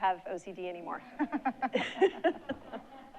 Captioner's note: laughs; audience laughing